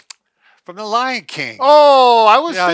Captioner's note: laughs